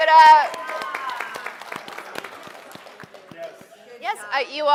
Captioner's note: applause